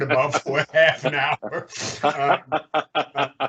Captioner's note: laughing